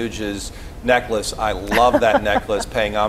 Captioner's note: laughs